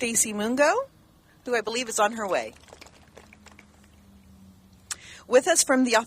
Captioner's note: clapping